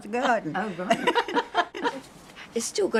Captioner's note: laughter